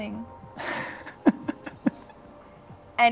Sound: laughing

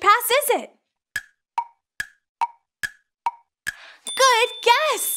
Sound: clock ticking

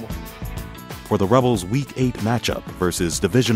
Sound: voiceover

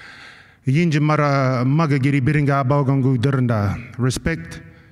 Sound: non-english speech

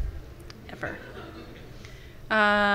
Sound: laughter from the audience

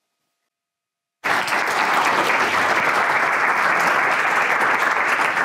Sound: attendees clapping

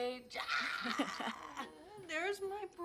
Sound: chuckles awkwardly; chuckles

